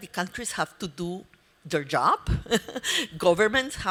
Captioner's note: laughs